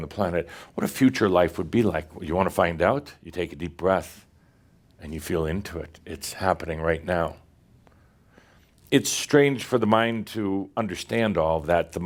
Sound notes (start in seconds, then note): none